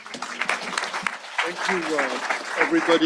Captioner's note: audience applause